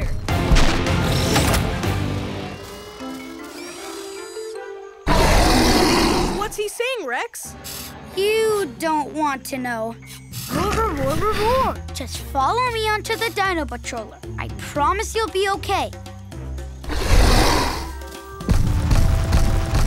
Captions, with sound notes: [roaring] What's he saying, Rex? You don't want to know. [grunting] Just follow me on to the dino patroller, I promise you'll be okay. [roaring]